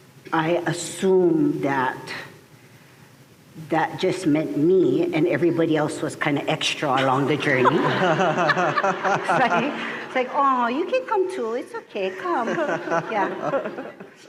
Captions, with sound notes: I assume that that just meant me, and everybody else was kind of extra along the journey. [laughter] [laughter continues] Like, aww, you can come to. It's okay. Come, come. Yeah.